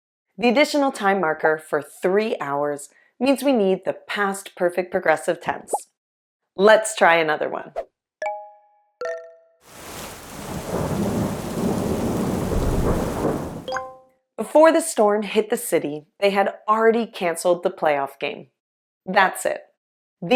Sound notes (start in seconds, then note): 9.7 wind, rain, thunder